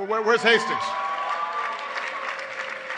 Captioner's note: applause